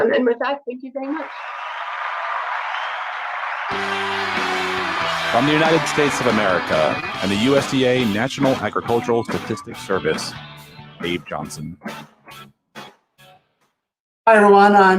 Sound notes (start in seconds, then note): 1.1 applause